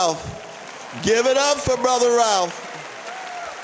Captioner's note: applause